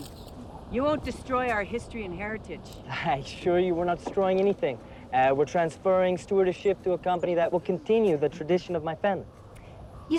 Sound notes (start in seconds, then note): none